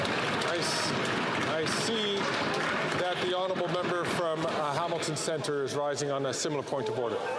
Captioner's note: some Applause